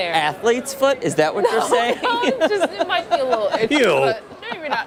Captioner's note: laughter